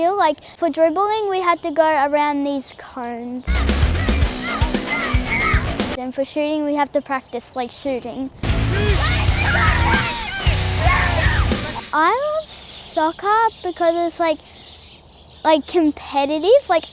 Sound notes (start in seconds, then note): 3.4 upbeat rock music; 8.4 upbeat rock music; 8.4 shouting and cheering